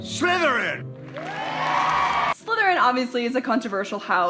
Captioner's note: crowd cheers